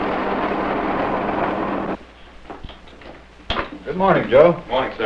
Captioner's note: jeep engine humming